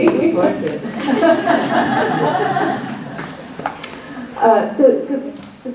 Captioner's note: laughs